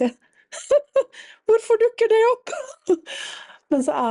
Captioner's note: laughter